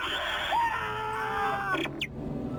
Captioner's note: screams